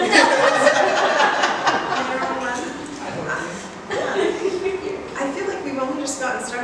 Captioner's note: laughs